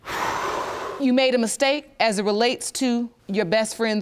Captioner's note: exhales